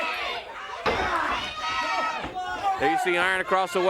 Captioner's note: crowd cheering